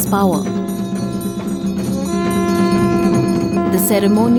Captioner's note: bells jingling; intense drumming; trumphets blowing